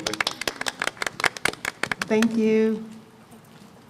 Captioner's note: applause